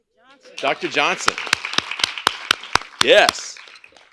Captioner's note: applause